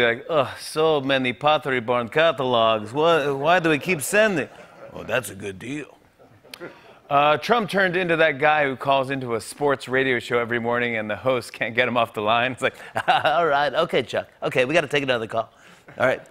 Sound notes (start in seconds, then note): 4.2 laughter; 12.8 chuckles